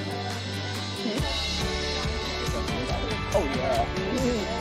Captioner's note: group chatting